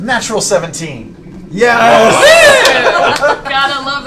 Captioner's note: cheering